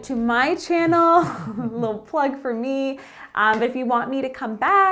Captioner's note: chuckling